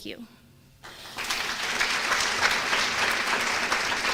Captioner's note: applause